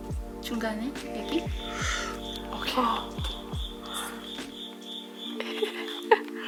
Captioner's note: speaks in foreign language